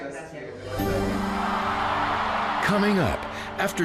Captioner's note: audience cheering